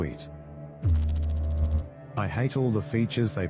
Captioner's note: electrical noise